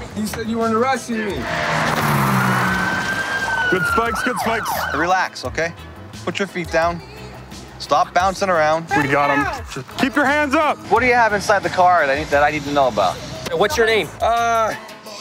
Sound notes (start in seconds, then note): 1.4 engine revving & sirens blaring